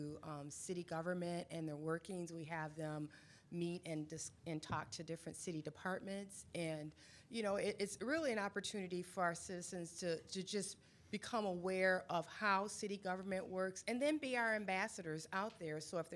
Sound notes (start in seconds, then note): none